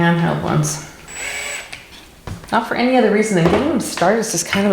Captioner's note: drill whirs